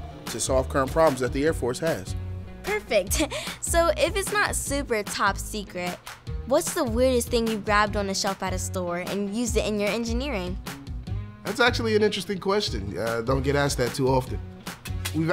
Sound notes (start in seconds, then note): 3.1 laugh